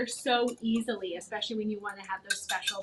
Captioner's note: whisk clattering